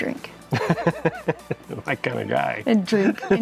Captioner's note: chuckles